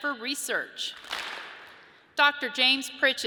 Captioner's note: audience claps